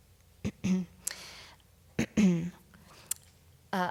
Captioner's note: clears throat